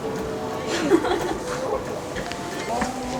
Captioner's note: veryone laughs